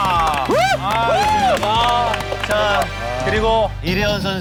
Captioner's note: envious applause